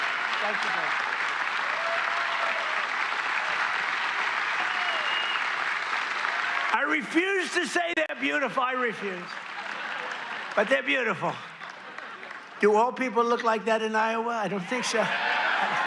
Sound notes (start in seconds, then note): 1.9 applause